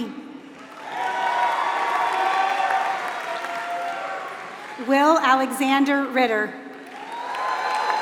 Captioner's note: applause; applause